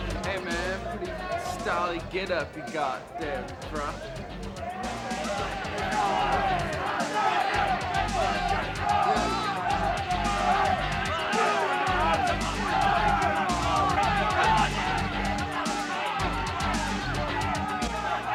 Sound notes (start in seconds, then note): 0.0 upbeat music continues; 5.6 group chattering; 5.6 upbeat music continues